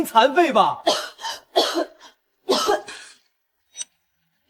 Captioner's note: Coughs